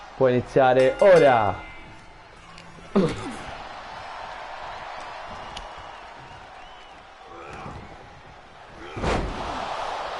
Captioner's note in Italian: Applauso